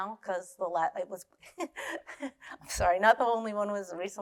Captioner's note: laughing